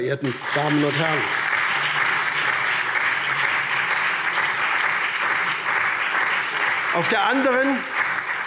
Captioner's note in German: Lebhafter Beifall SPD